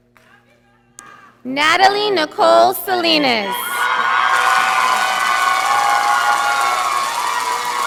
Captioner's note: audience applauding